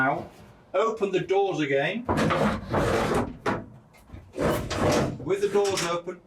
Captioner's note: doors scraping